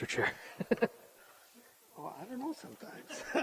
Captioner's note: chuckles